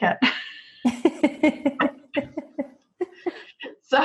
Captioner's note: laughing